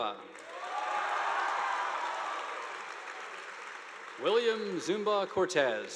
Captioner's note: audience applauding; students cheering